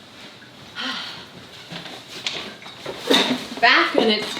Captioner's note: sighs